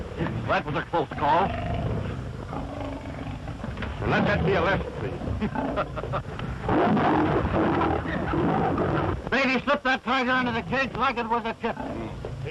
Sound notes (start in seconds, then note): 6.6 roaring